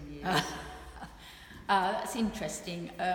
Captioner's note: laughing